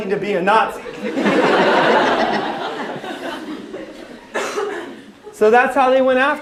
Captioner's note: laughter